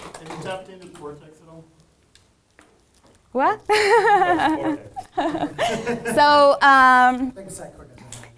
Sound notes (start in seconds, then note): 1.2 man speaking faintly off microphone